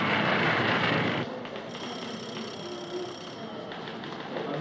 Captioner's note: phone ringing